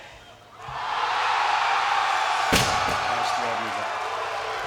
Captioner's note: crowd cheering